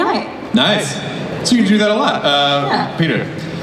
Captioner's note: voiceover